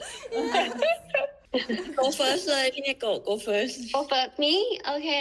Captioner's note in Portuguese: risada